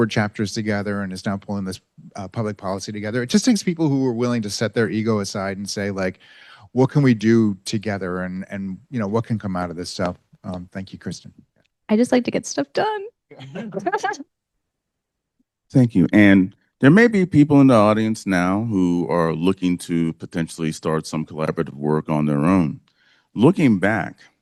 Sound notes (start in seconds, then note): 13.3 laughs